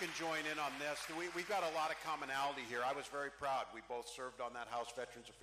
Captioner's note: cheering